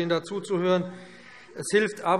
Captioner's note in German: Zuruf